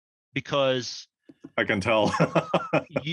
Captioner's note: laugh